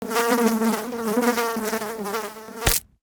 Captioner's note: fly buzzing; fly splatting